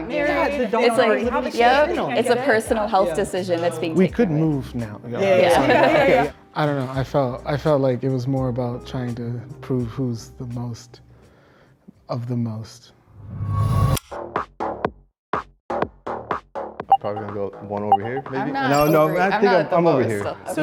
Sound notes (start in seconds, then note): 5.4 all laugh; 13.8 tense music